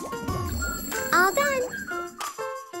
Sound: bell ringing

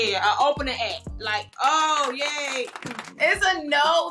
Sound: audience applauds

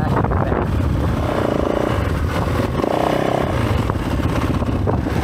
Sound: engine revving

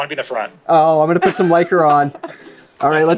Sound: laughs

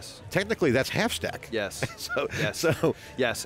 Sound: chuckles

